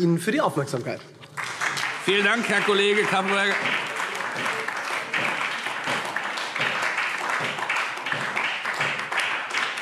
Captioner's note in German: Beifall SPD